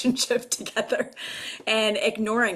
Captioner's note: laughs